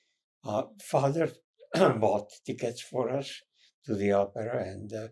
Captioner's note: clears throat